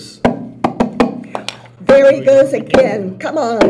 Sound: voices

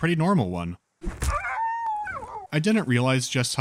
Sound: a thud and a dog's dying whine

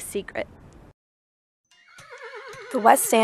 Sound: horse neighing

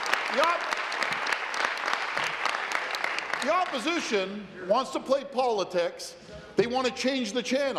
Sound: some Applause

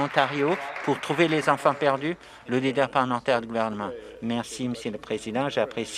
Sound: some Applause

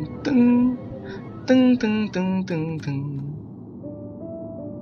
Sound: toxic humming

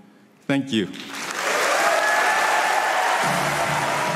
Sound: audience cheers and applauds

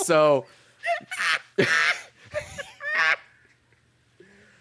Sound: cackling

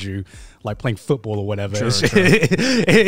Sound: laughs

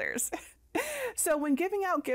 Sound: laughing

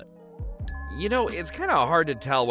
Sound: dings

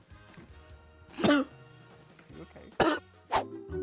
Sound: coughs

